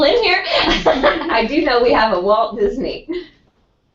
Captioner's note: laugh